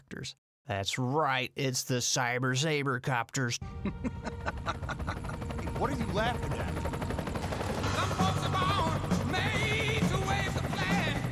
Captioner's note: helicopter noises